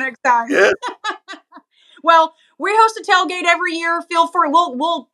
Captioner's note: laugh